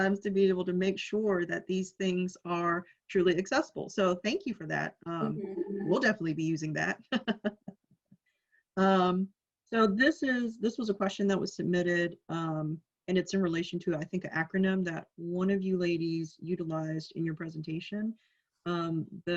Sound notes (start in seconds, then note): 8.2 laughs